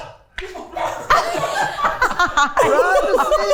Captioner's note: everyone laughing